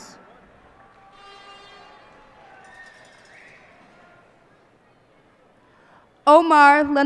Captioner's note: cheers and applause